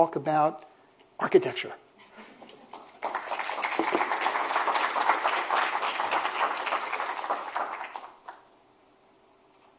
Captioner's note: applause